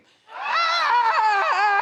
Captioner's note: everyone screaming